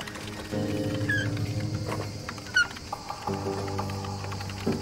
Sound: machinery creaking

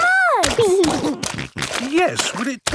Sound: snorting

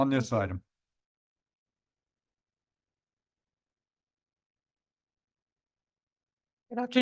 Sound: silence

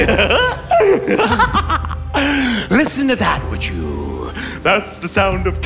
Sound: giggling

